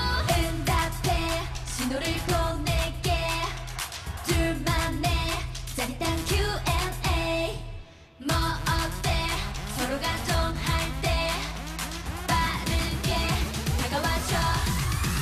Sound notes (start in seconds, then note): 3.4 fanchant; 11.2 fanchant